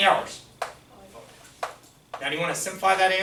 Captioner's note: voiceover